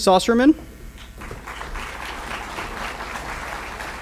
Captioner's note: applause